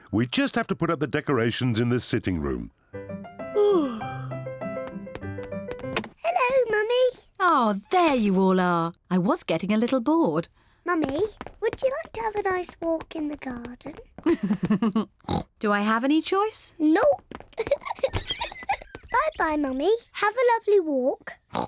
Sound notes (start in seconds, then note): 3.5 yawns; 14.2 chuckles and oinks; 17.5 giggles; 21.5 oinks